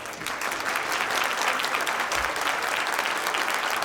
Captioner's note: applause